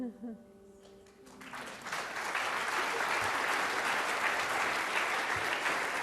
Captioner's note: applause